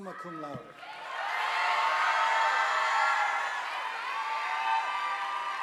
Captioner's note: audience applauding